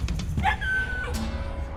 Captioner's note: dog squeals